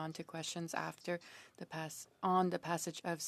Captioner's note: speaking French